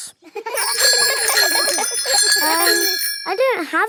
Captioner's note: giggling and ringing bells